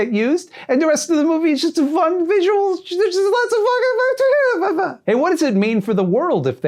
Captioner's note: trails off into excited babbling